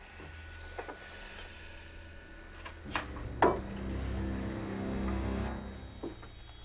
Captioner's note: footsteps approaching; tense music